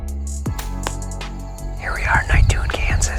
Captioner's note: arrow thuds